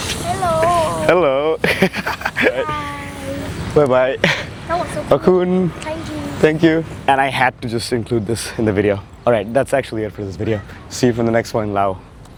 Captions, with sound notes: - Hello. Hello. (laughs) - Hi. Bye bye. - (foreign language) (foreign language) - Thank you. Thank you. And I had to just include this in the video. Alright, that's actually it for this video. See you from the next one in Laos.